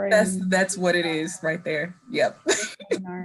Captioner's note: laughing